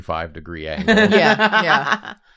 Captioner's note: laughs